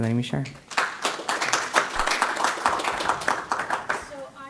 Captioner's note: applause